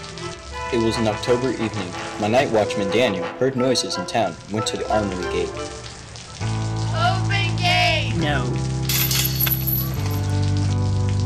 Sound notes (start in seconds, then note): 8.9 sound of breaking chain; 9.7 sound of rain